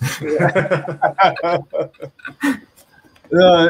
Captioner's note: all laughing